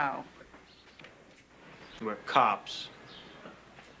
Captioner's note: deepens voice